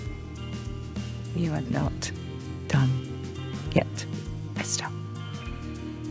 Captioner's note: voiceover